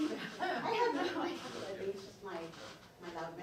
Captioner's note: laughing